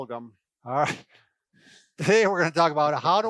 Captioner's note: laughs